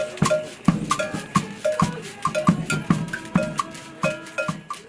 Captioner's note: non-english speech